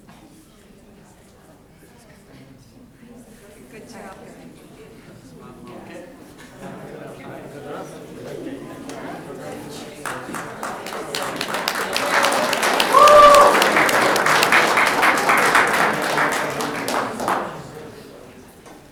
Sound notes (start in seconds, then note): 3.5 people chattering loudly; 10.3 audience clapping